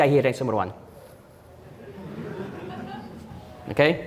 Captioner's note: audience Laughing